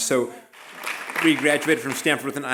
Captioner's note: applause